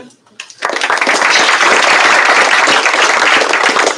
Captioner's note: applause